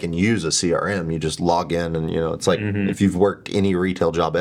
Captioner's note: laughing